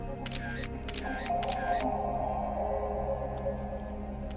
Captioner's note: camera clicking